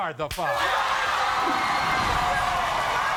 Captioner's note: audience cheers